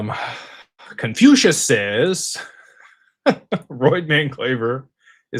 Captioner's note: laughter